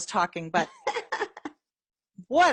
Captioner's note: laughs